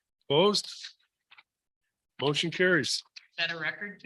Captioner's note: silence